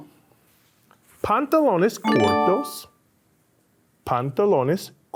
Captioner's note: upbeat tone chimes